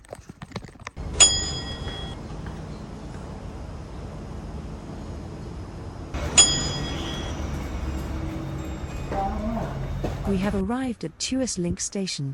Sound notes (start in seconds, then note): 1.2 atc chime; 6.1 atc chime